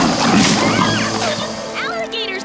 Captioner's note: wood breaking; alligators snarling